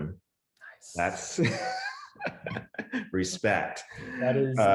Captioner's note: laughs